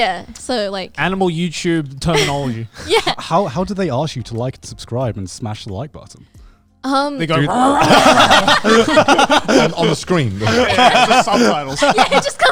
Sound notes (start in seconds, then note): 7.2 all laughing; 7.7 growling